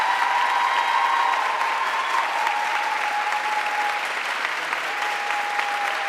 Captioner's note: audience cheering and applauding